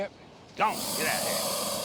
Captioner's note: hissing